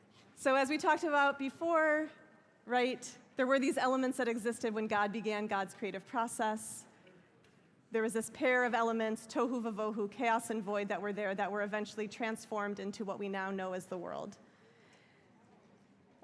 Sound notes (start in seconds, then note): 9.5 hebrew